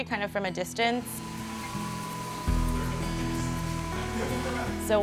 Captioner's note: slicing machine whirring